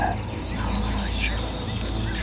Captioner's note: whispering